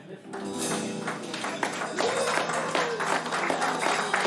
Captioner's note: audience applauding